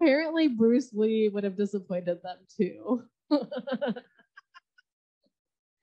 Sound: laughs

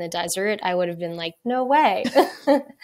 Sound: both laughs

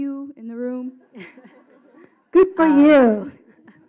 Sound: laughing

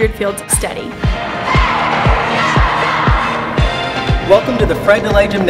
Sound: cheerleaders shouting

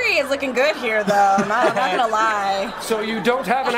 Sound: laughs

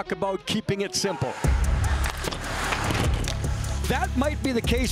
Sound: upbeat music; puck and blades scraping

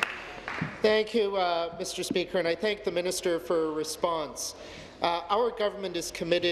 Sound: applause

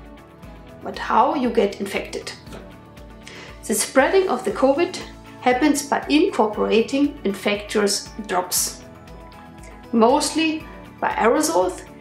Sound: inhaling

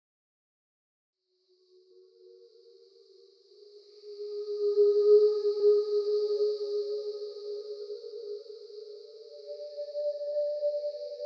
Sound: sound of mystic forest

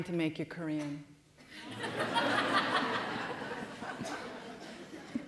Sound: laughter

